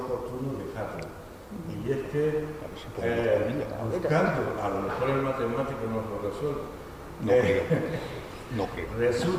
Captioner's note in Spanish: risas